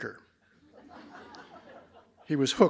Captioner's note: laughter